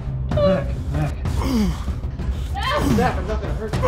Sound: grunting

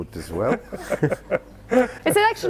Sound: all laughing

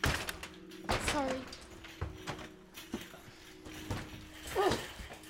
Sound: cart smashes

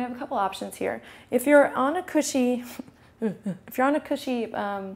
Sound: goofy laugh

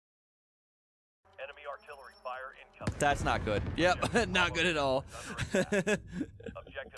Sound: laughs

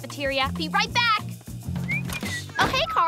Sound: whistling

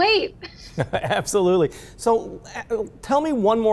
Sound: laughs; chuckles

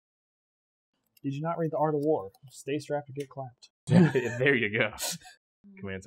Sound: laughs

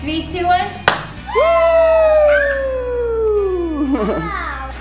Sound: all cheering

